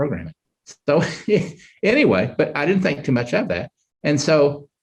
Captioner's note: chuckles